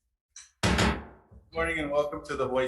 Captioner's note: gavel banging